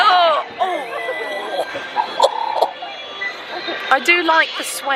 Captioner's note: both groaning